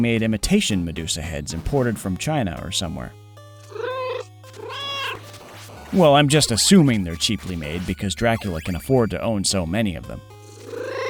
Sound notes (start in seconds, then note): 3.6 meow